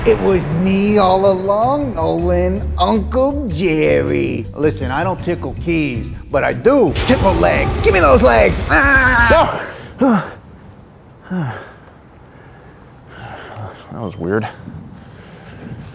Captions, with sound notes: - It was me all along, Nolan, Uncle Jerry. Listen, I don't tickle keys, but I do tickle legs. Give me those legs. Ah! (gasps) (panting) - That was weird.